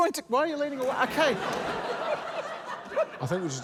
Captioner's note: laughter